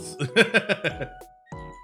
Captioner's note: laughs